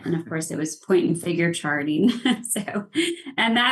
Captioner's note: laughs